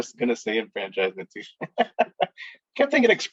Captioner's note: laughing